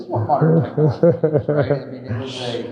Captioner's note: chuckling